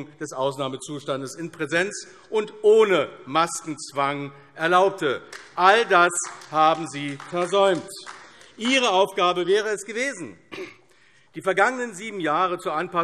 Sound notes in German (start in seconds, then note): 7.9 Beifall AfD